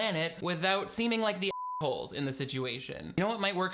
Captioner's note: beep